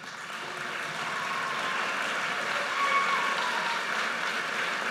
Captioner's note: audience cheers and applauds